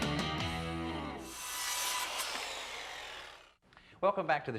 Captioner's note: saw whirring